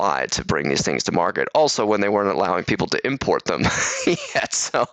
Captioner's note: laughs